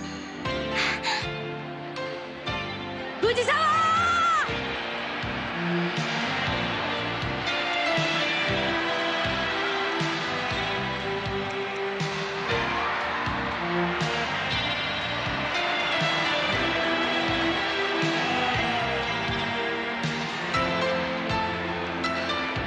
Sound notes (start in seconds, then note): 12.6 applause